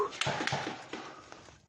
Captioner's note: gunfire